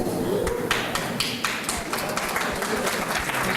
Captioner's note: applause